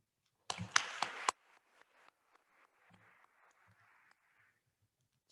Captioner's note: attendees applauding